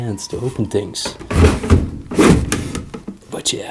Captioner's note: opening drawer